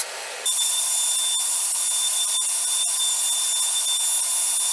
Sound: router whirring

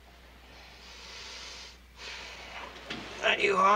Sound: takes deep breath

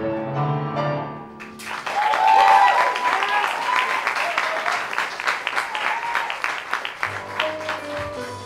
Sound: applause

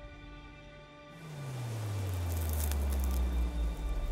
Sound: piano music plays; burst of rain drops; piano music ends

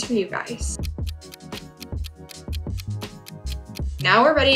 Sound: clock ticking

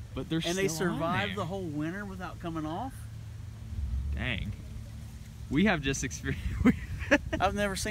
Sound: laughter

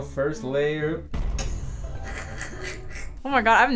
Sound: laughs

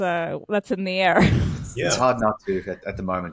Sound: chuckling

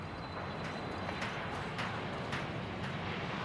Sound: distant hammering noise

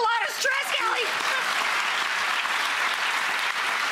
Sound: applause

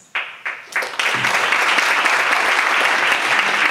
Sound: audience applauds

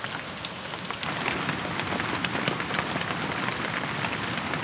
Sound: rain intensifies

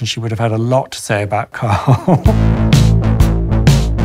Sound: laughing; electronic music

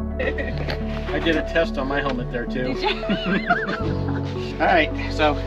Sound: laughter

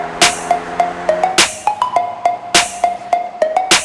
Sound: car engine revs; upbeat music

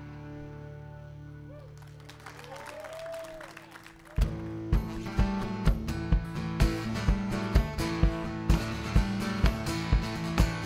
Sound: applause

